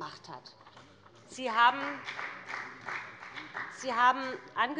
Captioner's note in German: Beifall bei dem BÜNDNIS 90/DIE GRÜNEN und der CDU